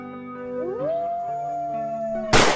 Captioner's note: wolf howling; gunshot